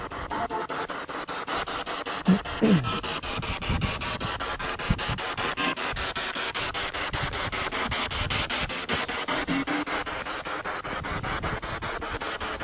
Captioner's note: radio noise from the spirit box